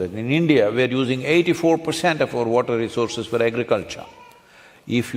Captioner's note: none